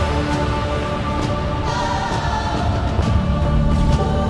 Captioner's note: Godzilla Roar